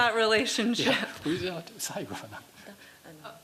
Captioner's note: speaking japanese